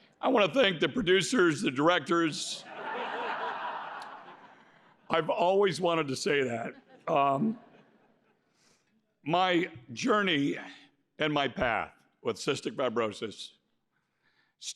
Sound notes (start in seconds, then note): 2.6 laughter